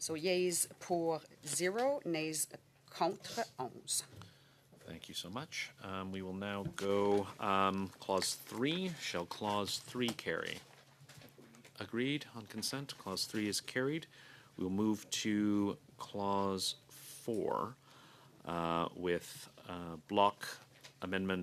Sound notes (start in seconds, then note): 12.6 speaking French